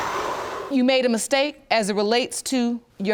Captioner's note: exhales